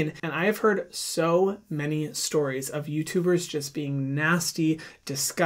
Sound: none

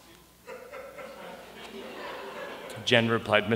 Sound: laughter

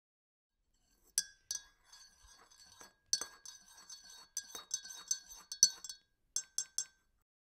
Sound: someone stirring a cup of tea

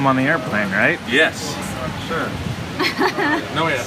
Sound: laughs

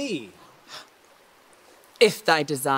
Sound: shocked gasp

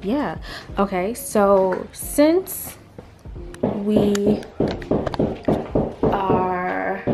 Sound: knocking on a surface

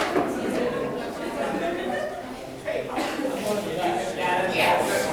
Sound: people chattering

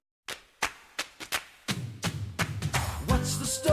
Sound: rhythmic Clapping

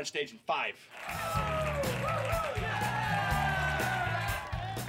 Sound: crowd cheering

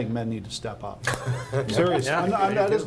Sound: laughing

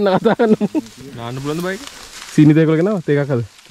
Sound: laughing

